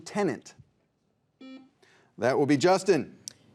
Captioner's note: buzzer beeps